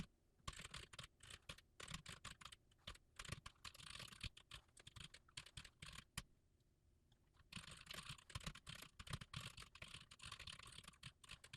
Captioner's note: typing sounds